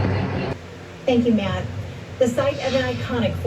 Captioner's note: on TV